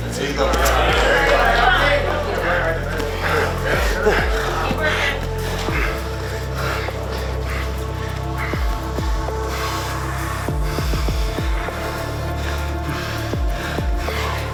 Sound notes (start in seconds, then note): 0.0 grunts; 3.9 both breathing heavily; 10.3 intense upbeat music continues